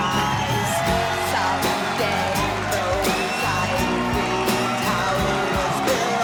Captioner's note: crowd cheering